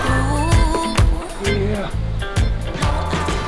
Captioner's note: grunts